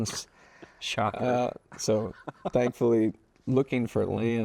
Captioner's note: laughs